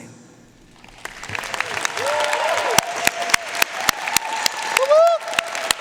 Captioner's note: audience cheering and applauding